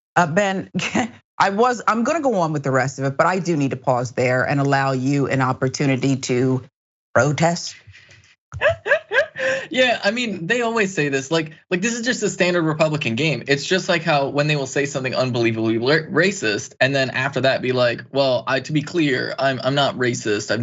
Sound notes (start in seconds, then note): 8.6 laugh